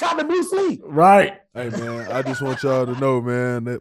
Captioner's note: Rel laughing